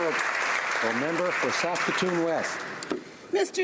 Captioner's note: applause